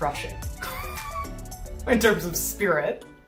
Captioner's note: laughs